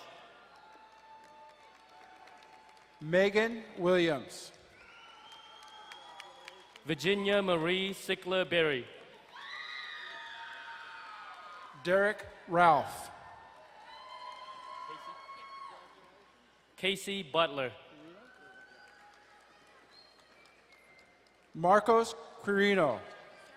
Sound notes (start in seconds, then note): 0.2 distant cheering; 4.7 distant cheering; 9.0 crowd cheering and applauding